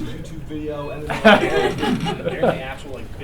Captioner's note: laughter